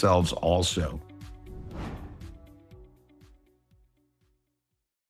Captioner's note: gentle upbeat music; logo whooshes